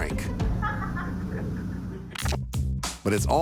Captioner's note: laughing